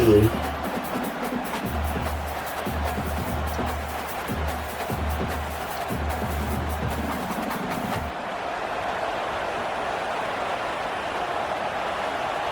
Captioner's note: crowd Noises